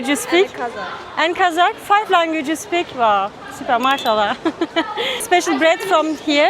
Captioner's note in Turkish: kahkaha